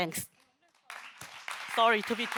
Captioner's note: audience member applauding